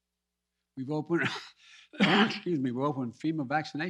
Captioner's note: coughs